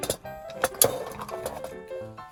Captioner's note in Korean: 와르르